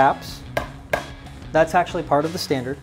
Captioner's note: taps